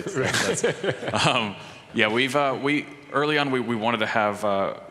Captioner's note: laughing